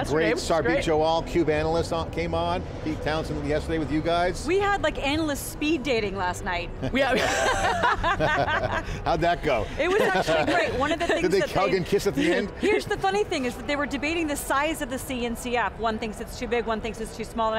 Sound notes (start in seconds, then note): 7.0 all laugh; 9.6 laughs